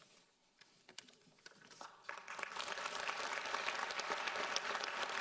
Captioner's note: audience applauds